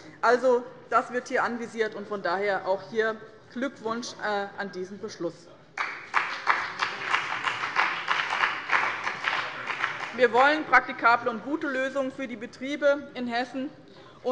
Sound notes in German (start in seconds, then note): 5.7 Beifall bei dem BÜNDNIS 90/DIE GRÜNEN und der CDU